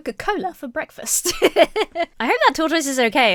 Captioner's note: laughs